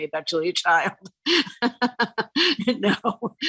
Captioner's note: chuckles